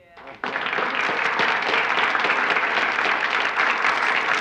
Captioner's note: applauding